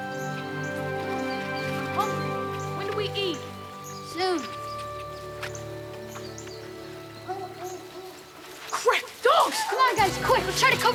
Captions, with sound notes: - When do we eat? - Soon. (dog barking) - Quick, dogs! - Come on guys, quick.